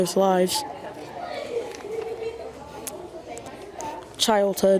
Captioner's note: students chattering